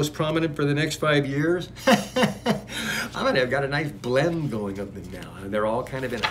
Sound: laughs

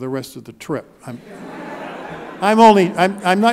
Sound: laughing

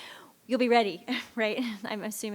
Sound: laughs

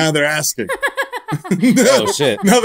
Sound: laughter

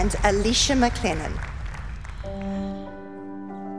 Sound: audience clapping

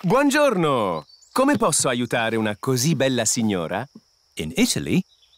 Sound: speaks italian

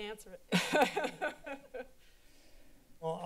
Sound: laughs

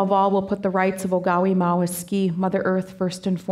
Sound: speaking Danezaa

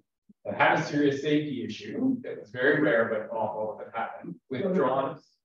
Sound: audio cutting out

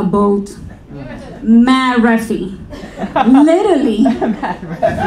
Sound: speaking in foreign language

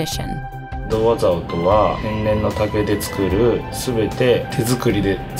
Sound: speaking in foreign language

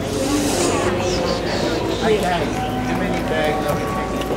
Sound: bustle of airport

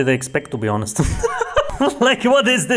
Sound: laughs

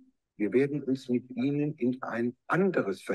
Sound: speaking german

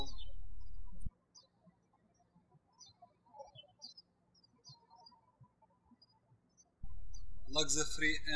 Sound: birds chirping

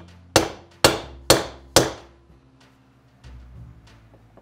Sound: hammer tapping

